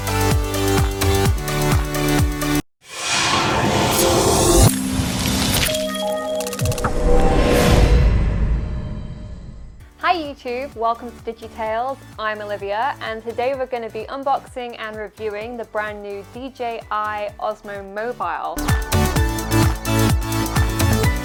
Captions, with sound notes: (metallic whooshing) (chiming) - Hi, Youtube, welcome to Digitales. I'm Olivia, and today we're gonna be unboxing and reviewing the brand new DJI Osmo Mobile. (upbeat music)